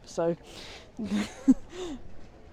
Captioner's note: laughs